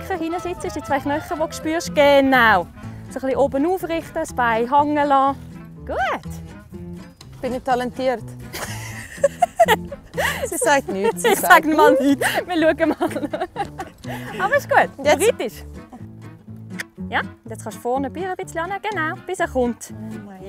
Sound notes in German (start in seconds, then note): 11.2 Lachend